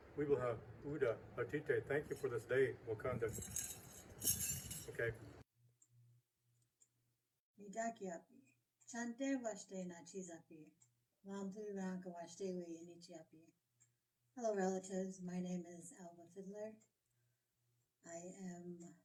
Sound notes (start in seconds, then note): 9.5 speaks native language